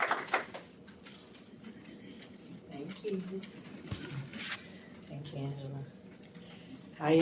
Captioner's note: applause